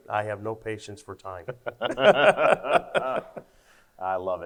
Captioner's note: both laugh